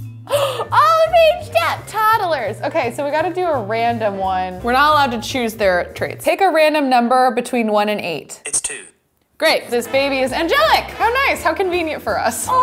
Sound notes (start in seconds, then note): 0.3 gasps; 8.5 computer Voice